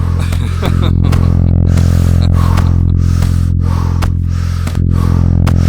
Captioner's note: heavy breathing